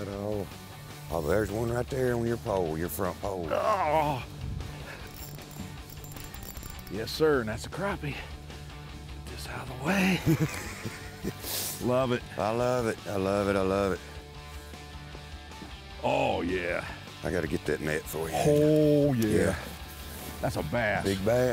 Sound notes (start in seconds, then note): 3.4 groaning; 5.0 fishing rod clicking; 9.9 laughing